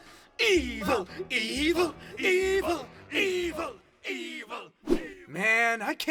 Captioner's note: chanting